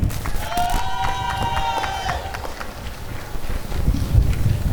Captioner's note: applause and cheering